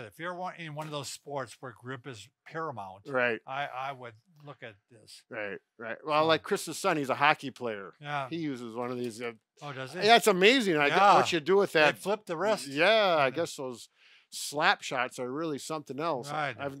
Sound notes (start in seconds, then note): none